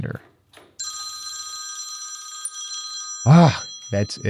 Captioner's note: phone ringing